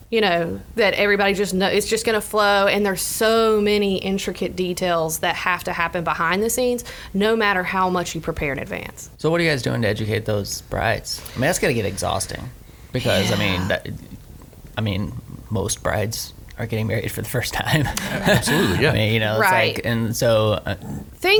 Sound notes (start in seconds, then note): 17.7 laughs